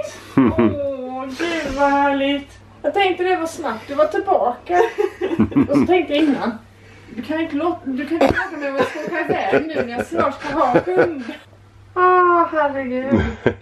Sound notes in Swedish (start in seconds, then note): 0.3 Pappa skrattar; 11.0 skratt